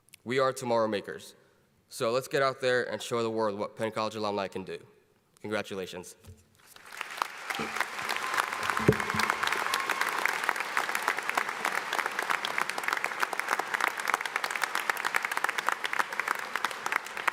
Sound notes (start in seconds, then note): 6.7 audience applauding